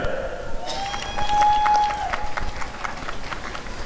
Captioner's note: applause and cheering